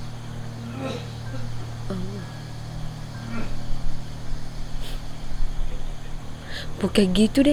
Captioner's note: sound of old man coughing